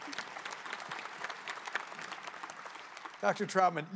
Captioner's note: applause